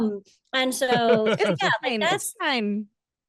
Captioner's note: laughs